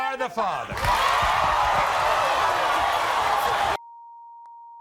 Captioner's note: crowd cheering